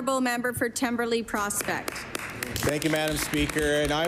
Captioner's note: applause